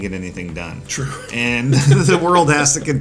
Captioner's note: laughs; chuckles